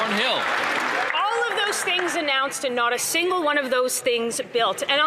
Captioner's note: some Applause